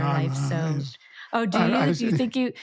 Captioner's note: groaning